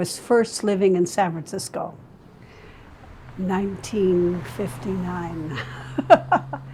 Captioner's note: laughing